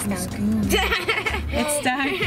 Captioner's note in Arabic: يضحك